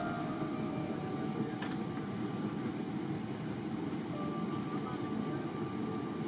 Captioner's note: airplane engine humming